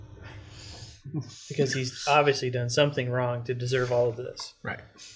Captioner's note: sarcastically